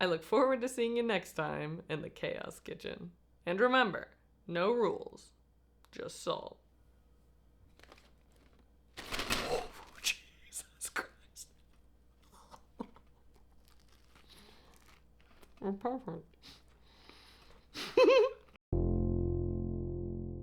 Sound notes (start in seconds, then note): 17.7 giggle